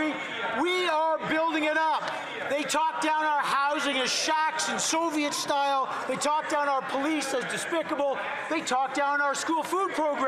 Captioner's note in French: voix de l'interprète